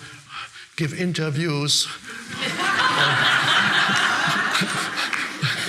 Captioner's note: audience laughing